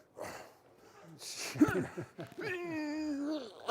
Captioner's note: grunts